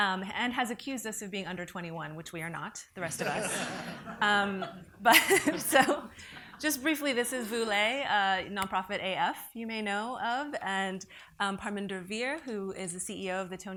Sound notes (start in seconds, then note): 5.7 laughs